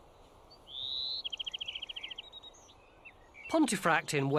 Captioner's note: birds chirping